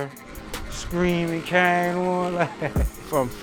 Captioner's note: laughs